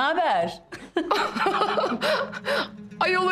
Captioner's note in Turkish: Gülme sesi